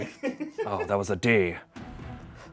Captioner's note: crew laughs